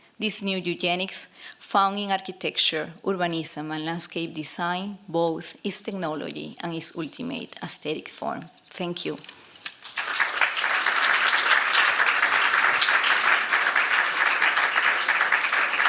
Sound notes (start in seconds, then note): 9.7 applause